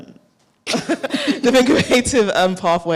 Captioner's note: laughs